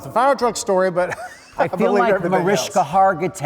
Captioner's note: laughs